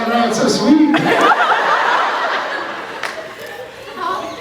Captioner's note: laughs; croaks